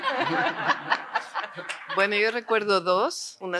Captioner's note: risas